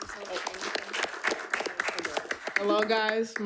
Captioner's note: attendees clapping